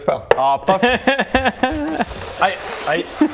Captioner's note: devilish laugh